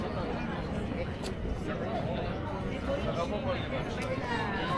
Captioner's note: people chattering